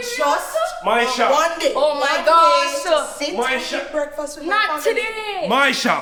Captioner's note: everybody yelling loudly